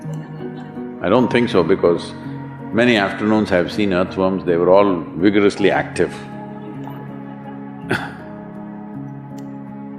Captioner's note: laughter; few laugh